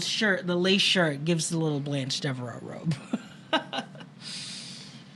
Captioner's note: chuckles